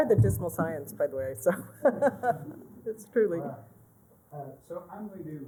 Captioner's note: laughter